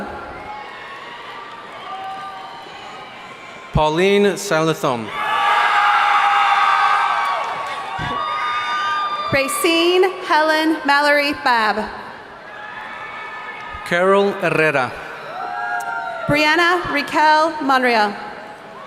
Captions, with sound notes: - Pauline Silathum. (audience cheering) - Racine Helen Mallory Fevre. - Carol Herrera. - Briana Raquel Monreal.